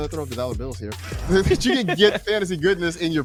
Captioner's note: laughs